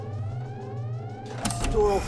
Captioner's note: door clicks